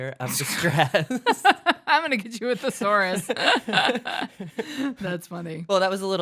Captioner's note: laughs